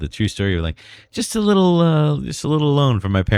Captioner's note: uh